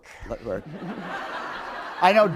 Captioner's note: laughter